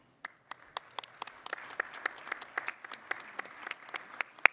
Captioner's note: audience applauding